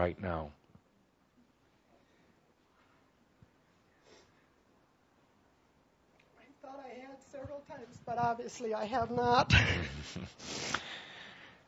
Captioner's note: tearful